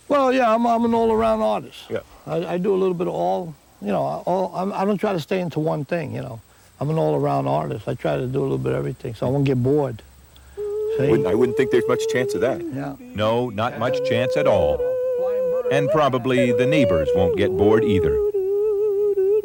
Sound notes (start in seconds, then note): 15.1 Jerry hums